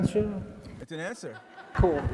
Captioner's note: audience laughs